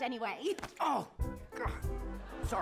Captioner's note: grunts